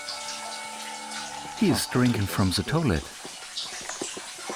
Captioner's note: in German